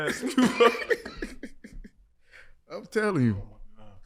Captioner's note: laughing